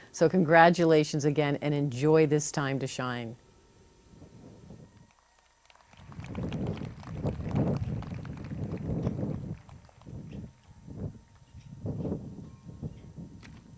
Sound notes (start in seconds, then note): 5.0 crowd claps